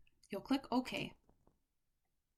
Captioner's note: click